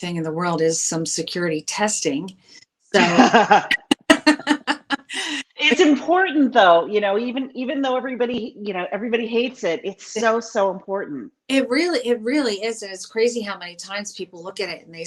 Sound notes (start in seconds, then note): 2.9 laughs